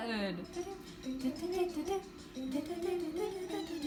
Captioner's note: humming